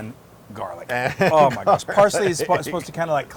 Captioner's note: laugh